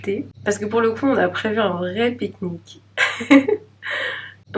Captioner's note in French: rires